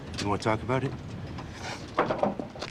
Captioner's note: sniffs